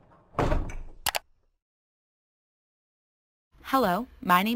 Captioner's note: mouse click